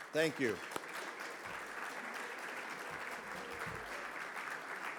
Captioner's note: audience clapping